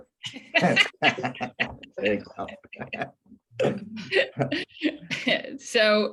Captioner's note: laughter